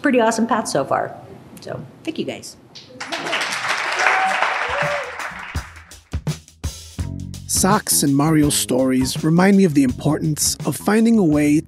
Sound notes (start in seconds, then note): 2.9 applause and cheering